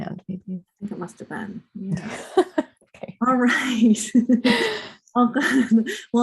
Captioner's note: laughter